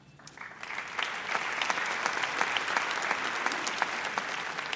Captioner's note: audience applauds